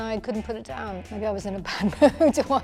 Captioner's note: she laughs